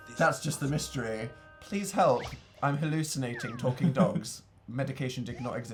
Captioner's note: laughs